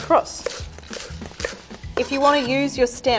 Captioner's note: knife tapping against wooden board